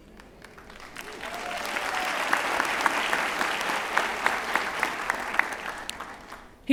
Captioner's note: applause